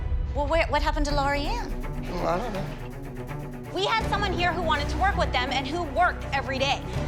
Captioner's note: none